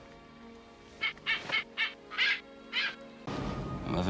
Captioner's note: parrot chirping